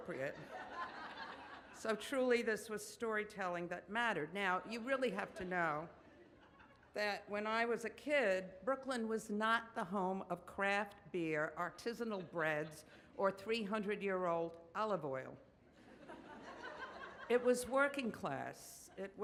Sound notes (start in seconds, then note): 0.4 audience laughs; 15.8 audience laughs